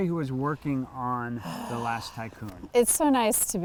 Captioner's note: sighs